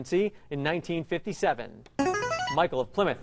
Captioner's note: ringer